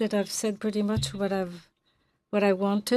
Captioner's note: speaking French